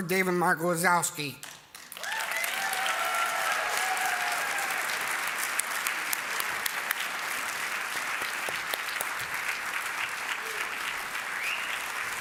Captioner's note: applause